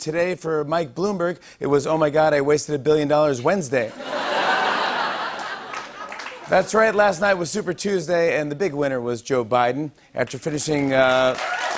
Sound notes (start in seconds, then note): 3.9 laughter; 11.0 applause